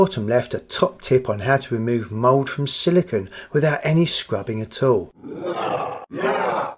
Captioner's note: werewold growl